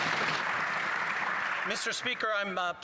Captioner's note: some Applause